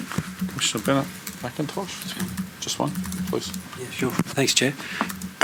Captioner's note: background chatter